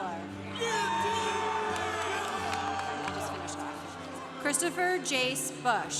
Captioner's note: congregation cheering